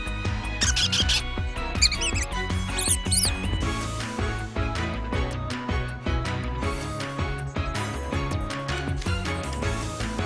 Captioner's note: squeaks